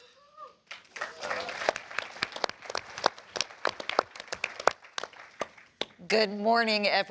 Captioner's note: applause